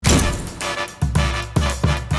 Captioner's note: camera shutters; upbeat music